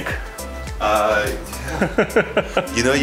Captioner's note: chuckling